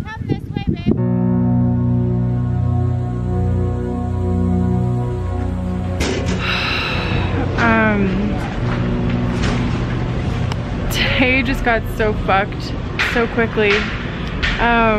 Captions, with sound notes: Okay, come this way, babe. (intense music) (sighs) Today just got ruined so quickly.